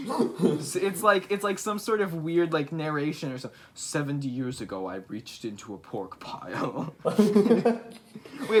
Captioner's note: lowers voice